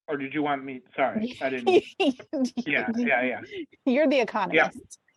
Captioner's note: laughs